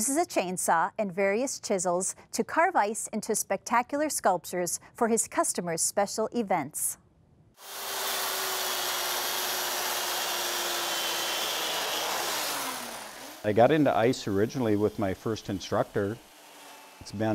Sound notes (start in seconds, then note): 7.3 buzzing